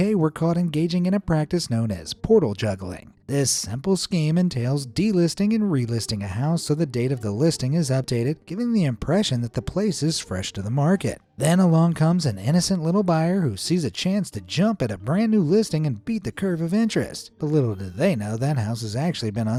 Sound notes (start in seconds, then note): none